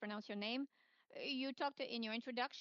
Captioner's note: speaking French